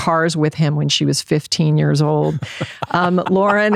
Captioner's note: laughing